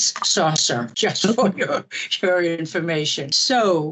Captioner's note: laughing